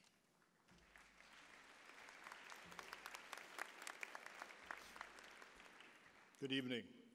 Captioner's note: applause